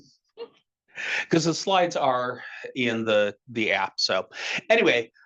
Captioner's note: laughing